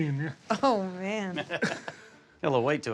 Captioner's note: laughs